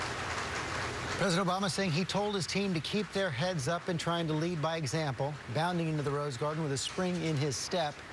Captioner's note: applause